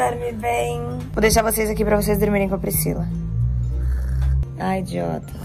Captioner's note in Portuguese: som de ronco